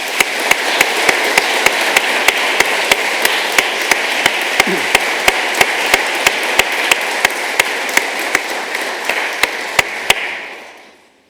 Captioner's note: applause